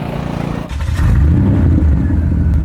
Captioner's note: car engine roaring